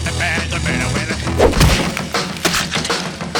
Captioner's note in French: bam